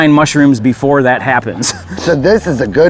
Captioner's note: laughing